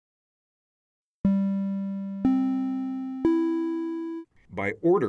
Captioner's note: audio Alert